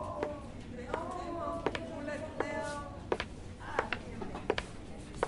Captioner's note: workplace chatter